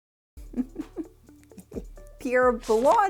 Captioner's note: laughs